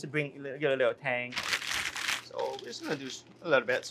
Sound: pastry bag crunching

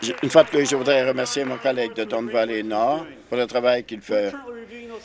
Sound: applause

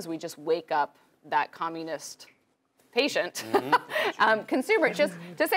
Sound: laugh

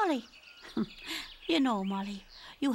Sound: chuckles

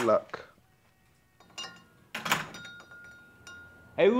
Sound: door closes

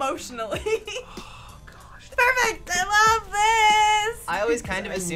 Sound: sighs

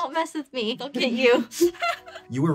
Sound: laughs

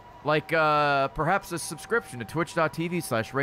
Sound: none

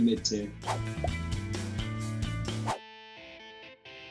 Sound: swooshing; electronic music

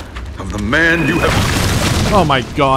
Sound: boosh

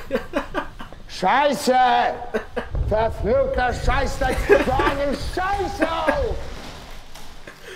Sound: shouting and screaming in german

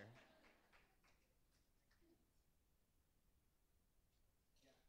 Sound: laughter

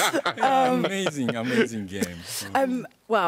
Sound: laughter

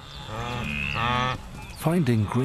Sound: wildebeest mooing

